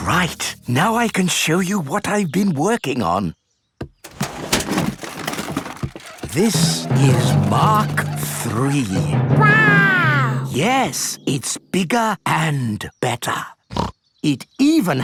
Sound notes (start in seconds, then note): 4.0 clattering; 14.0 snorts